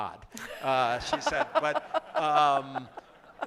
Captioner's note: laughter